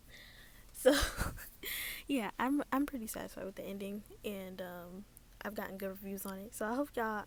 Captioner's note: laugh